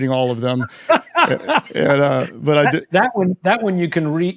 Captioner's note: Simon laughs